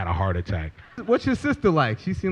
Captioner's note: laughter